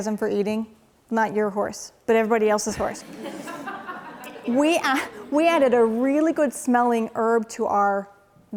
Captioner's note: laughing